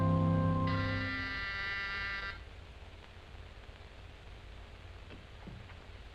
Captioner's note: buzzer ringing